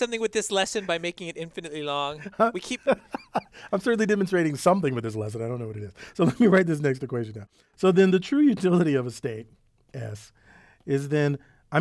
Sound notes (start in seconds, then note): 2.7 laugh